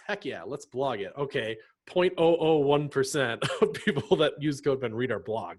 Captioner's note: laughs